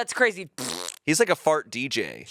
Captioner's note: imitates fart sound